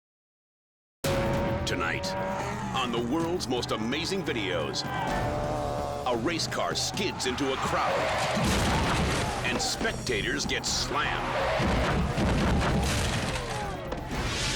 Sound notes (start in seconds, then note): 5.0 car revving; 7.7 car skidding; 11.6 bodies thumping